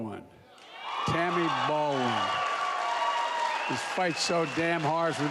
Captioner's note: applause